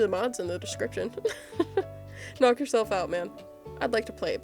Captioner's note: laughs